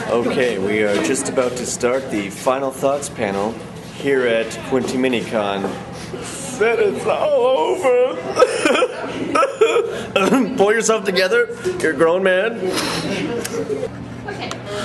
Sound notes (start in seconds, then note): 6.3 sobs; 8.4 clears throat